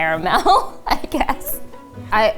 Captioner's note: laughing